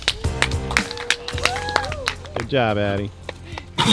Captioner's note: audience applauding